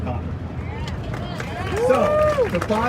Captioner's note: crowd cheering